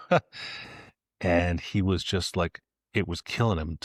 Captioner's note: laughs